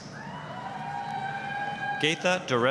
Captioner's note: applause, cheering